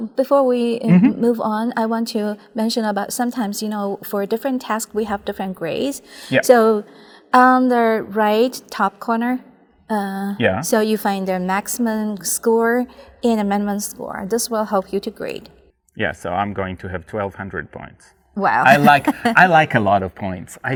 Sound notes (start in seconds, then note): 18.6 laughing